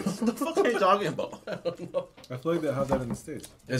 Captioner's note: laughing